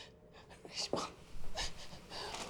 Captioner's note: whispers